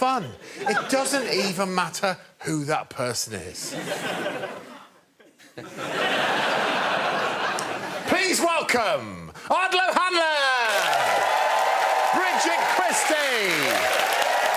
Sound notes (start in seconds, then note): 3.6 laughter; 10.3 cheers and applause